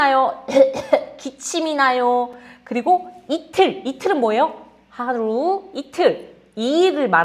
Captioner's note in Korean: 목을 가다듬음